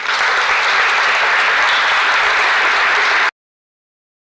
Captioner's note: applause